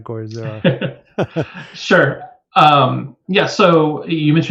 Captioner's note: laughs